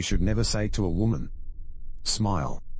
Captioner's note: electrical noise